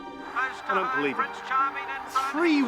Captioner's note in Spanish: Locutor de TV en segundo plano